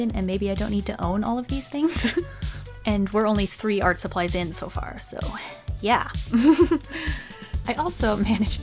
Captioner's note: giggle; snicker